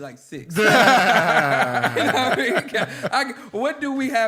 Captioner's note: laughter